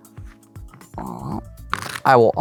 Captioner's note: cards riffling